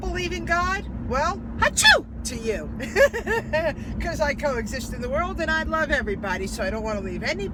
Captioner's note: giggling